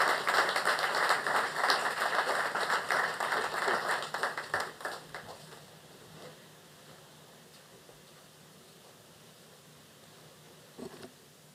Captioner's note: applause